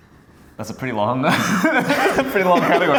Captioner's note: laughing